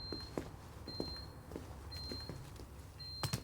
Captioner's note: door beeping